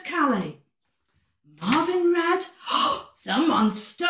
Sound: gasp

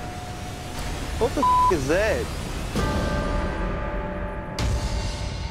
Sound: beep

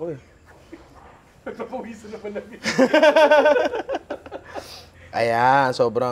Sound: laughs

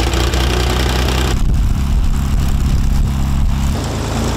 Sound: wind fan blows

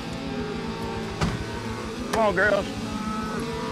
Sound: cows moo

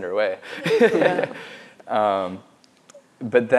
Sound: laughs

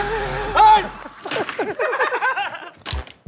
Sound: laughter

